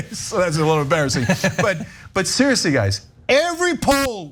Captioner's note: laugh